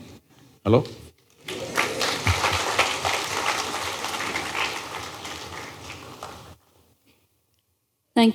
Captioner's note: applause